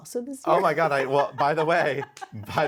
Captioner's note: Nikki laughs